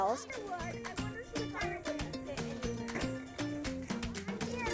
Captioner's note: children chatting